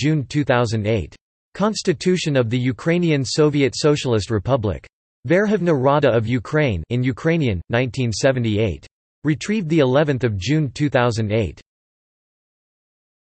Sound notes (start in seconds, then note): 7.3 in Ukrainian